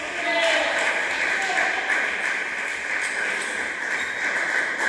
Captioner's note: applause